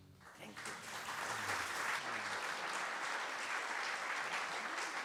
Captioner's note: applause